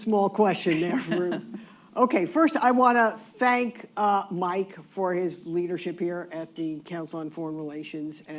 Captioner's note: laughter